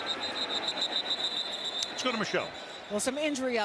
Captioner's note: whistle blowing